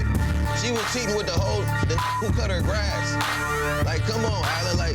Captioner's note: beep